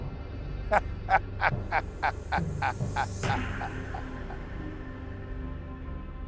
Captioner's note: laughs